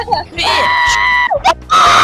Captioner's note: delirious screaming continues